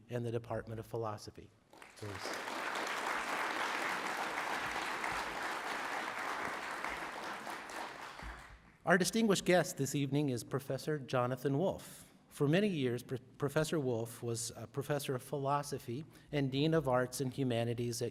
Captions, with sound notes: and the Department of Philosophy, please. (applause) Our distinguished guest this evening is Professor Jonathan Wolff. For many years, Professor Wolff was a professor of philosophy, and dean of Arts and Humanities